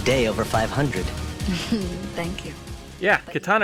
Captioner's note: giggles